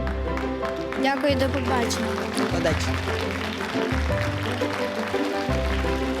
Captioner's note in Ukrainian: оплески